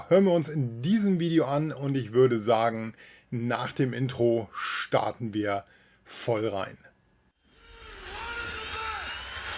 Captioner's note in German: schreien